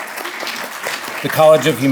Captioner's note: audience applauding